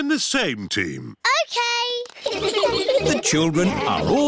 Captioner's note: all giggling